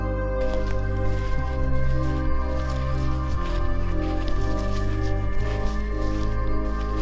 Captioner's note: tranquil music continues; leaves crunching